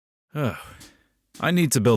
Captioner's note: sigh